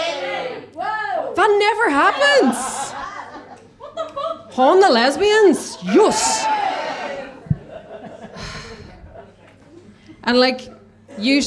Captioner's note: audience members cheers